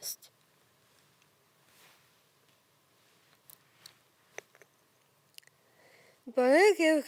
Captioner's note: rustling